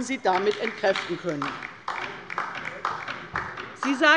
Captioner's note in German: Beifall bei der LINKEN